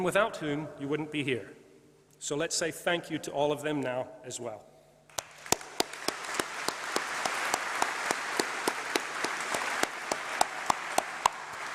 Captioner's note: applause